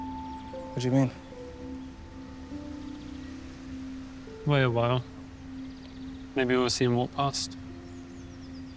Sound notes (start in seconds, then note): 1.6 birds chirping; 1.6 sentimental music